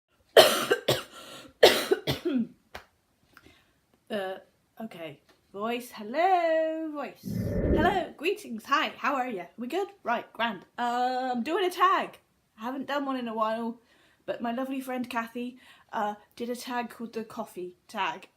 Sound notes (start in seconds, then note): 0.0 coughs up lungs